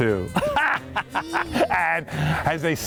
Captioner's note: laughs